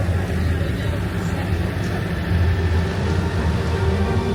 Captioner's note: tractor rumbling; whimsical mysterious music